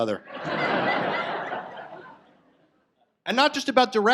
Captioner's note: audience laughs